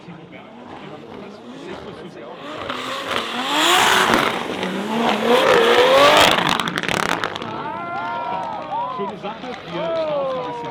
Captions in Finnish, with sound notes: ...[aplodit] Schöne Sache, hier